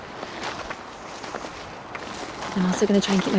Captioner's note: footsteps crunching